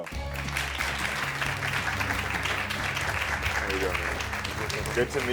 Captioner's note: audience claps